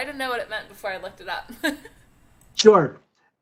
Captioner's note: laughter